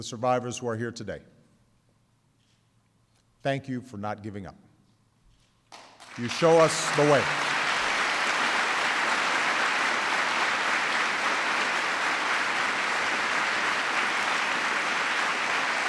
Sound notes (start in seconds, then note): 9.7 applause